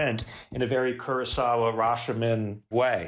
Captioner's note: none